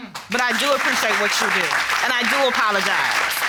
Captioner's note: audience applauding